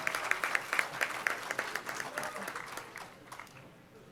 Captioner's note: applause